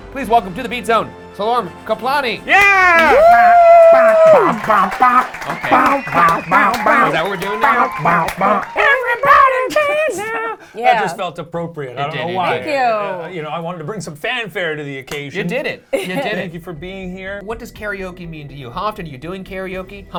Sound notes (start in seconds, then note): 2.7 humming; 3.3 claps; 5.9 humming